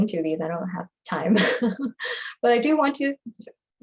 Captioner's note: laughter